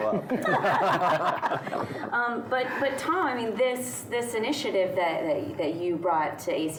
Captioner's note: laughing